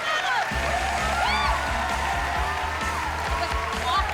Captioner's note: cheering and applause